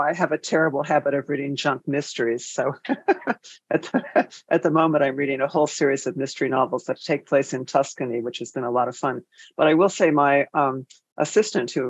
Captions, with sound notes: I have a terrible habit of reading junk mysteries. (laughs) So at the moment, I'm reading a whole series of mystery novels that take place in Tuscany, which has been a lot of fun, but I will say my assistant,